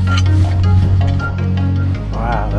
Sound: upbeat music; metal clunking

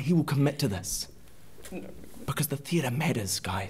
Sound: murmuring

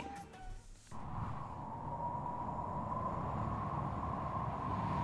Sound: wind howling

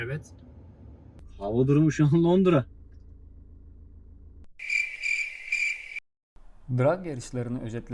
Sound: cricket sounds

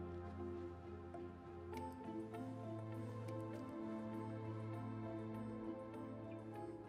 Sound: none

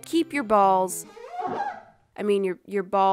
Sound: unnecessary rubber sounds

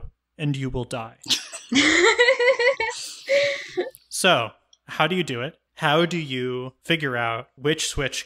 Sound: laugh

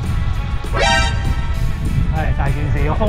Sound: sudden wind change and temperature drop

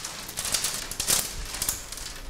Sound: rustling

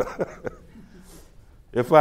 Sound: laughs

